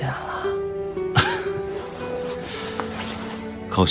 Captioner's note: laughs